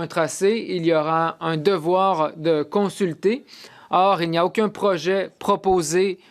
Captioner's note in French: voix de l'interprète